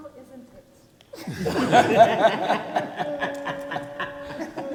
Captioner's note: people laugh